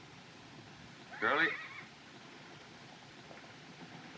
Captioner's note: horse Whinnies